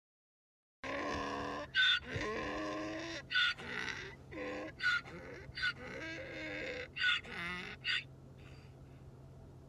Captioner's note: hee-haw, hee-haw